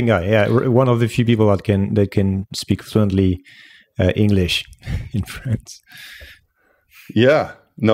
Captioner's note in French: rires